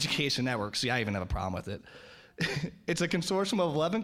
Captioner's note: laughing